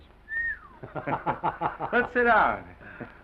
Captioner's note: whistles